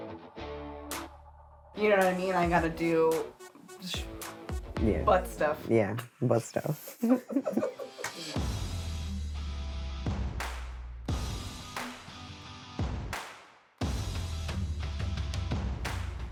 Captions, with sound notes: You know what I mean? - I gotta do, shoot- - Yeah. - Butt stuff. - Yeah, butt stuff. [both laughing] [downbeat music]